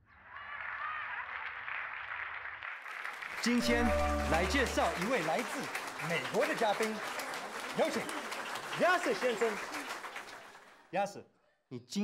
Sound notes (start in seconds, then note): 0.1 clapping; 3.4 speaking in Mandarin